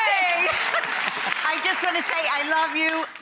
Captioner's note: applause